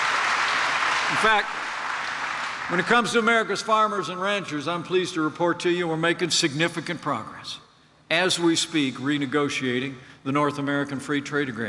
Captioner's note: applause